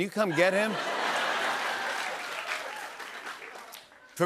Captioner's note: laughter and applause